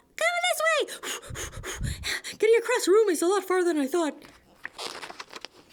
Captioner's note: heavy breathing